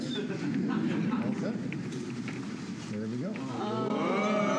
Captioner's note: laughter